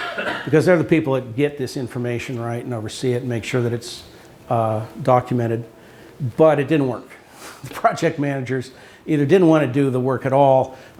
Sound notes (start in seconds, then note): 7.2 chuckles